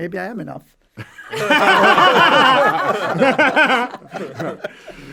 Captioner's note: all laughing